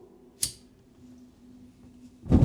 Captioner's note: lighter spark